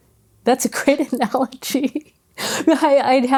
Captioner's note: laughs